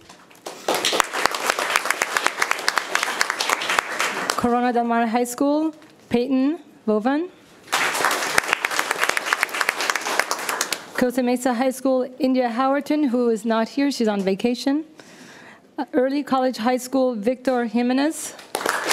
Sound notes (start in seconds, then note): 0.0 room applauds; 7.6 room applauds